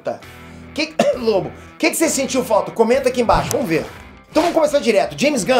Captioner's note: coughs